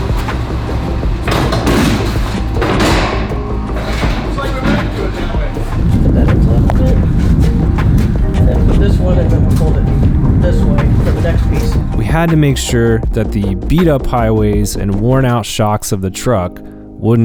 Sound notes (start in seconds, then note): 1.7 thumping